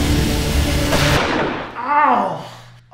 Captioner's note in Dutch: zaag zoemt; geweershot